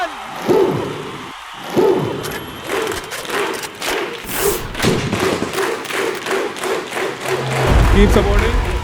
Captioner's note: applause